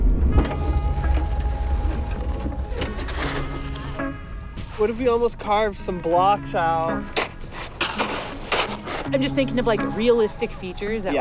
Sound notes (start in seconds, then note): 0.0 upbeat music fading; 0.3 gentle music; 7.1 shovels chopping snow